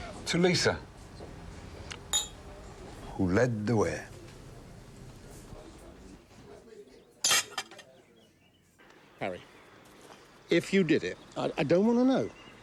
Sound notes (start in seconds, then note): 2.1 glasses clinking; 7.3 glass smashing